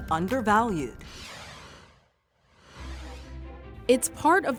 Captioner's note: logo whooshes